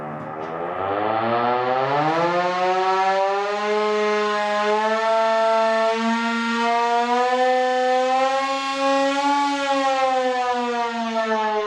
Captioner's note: portable siren alarming for danger